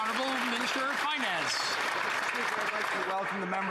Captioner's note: some Applause